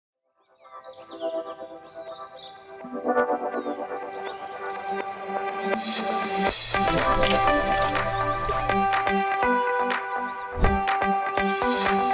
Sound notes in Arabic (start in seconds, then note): 0.4 تتحدث بلغة أجنبية